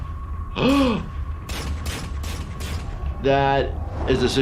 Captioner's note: gasping